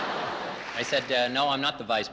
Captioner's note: laughs